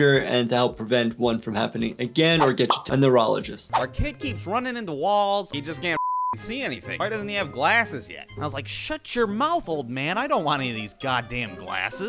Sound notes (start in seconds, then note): 6.0 beep